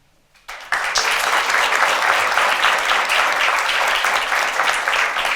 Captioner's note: attendees applaud